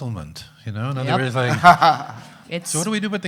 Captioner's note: audience laughing